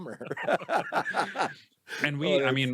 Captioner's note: both laugh